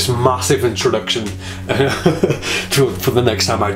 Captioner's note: laughs